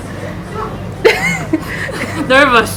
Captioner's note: laughs